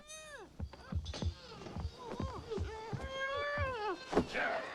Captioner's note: Tommy snuffling; foot whacks